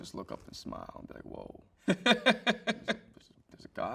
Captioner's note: host chuckles